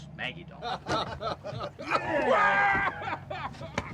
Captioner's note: laughing